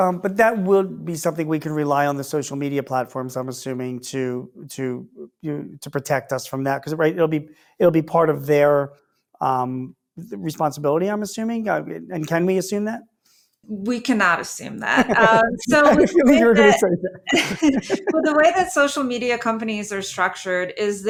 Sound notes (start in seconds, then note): 14.9 laughs